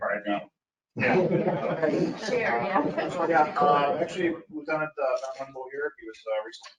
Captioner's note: speaking faintly